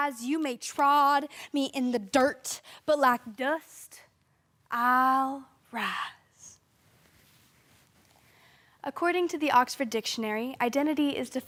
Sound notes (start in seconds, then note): 6.9 silence